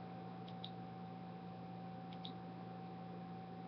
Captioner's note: clicking